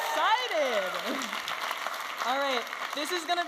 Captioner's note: audience applauding and cheering